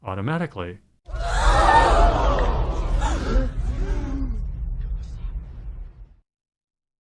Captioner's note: crowd gasping